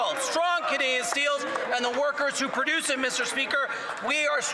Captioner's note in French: voix de l'interprète